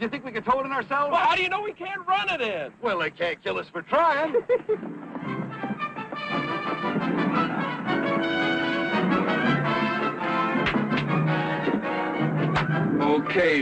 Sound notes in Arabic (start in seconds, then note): 4.1 ضحك